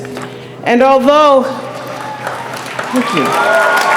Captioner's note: applause